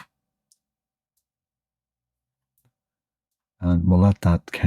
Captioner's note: silence